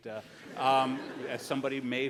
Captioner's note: laughs